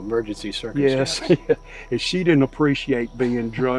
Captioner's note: chuckling